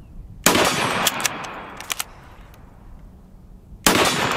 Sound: gun shot; ammo reloading; gun shot

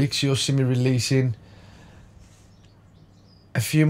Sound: silence

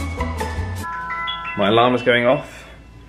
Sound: alarm ringing

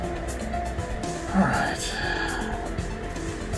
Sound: sighing

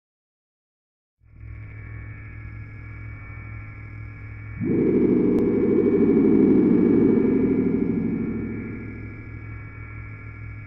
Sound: sound of static echo

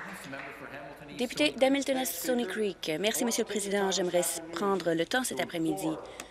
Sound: some Applause

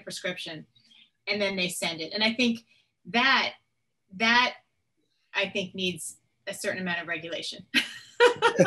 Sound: laughing

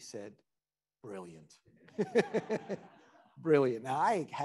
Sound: attendees laughing

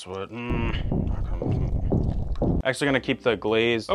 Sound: heart pounding

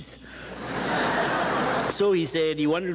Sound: audience chuckles

